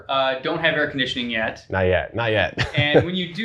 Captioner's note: laughs